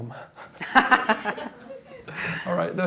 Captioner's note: laughter